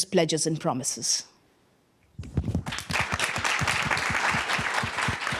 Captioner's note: applause